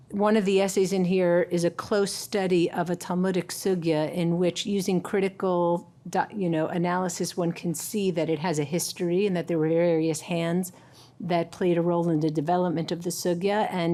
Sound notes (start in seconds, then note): none